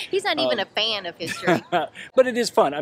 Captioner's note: laughs